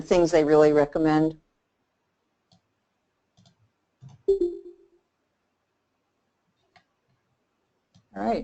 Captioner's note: silence